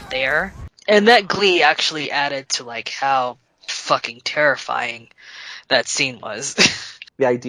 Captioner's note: chuckles